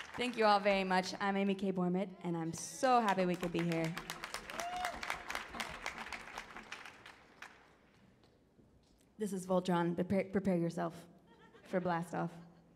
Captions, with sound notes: Thank you all very much. I'm Amy K Bormet and I'm so happy we could be here. (audience cheers) This is Voltron, prepare yourself for a blast off.